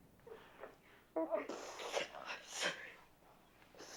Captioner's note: sniffles